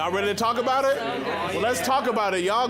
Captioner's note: crowd murmuring